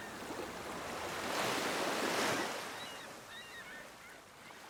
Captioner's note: sound of gentle waves splashing